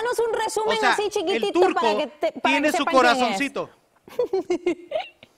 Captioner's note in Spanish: risas